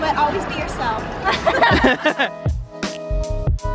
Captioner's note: laughter